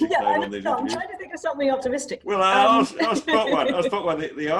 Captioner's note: laughs